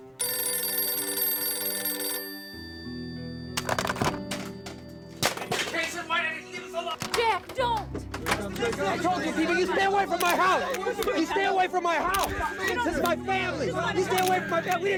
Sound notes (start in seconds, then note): 0.0 phone ringing; 2.4 somber music; 4.0 phone clattering; 8.6 reporters shouting; 11.1 reporters chattering